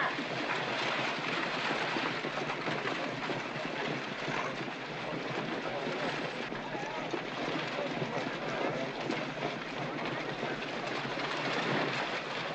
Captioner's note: hooves trotting & carriage rattling